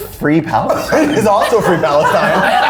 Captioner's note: all laughing